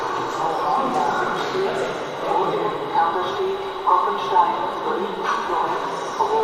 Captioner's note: platform announcement can be heard in the background